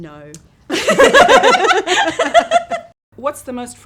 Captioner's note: laughs